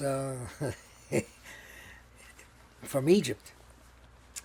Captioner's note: laughing